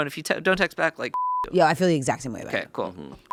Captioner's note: beeping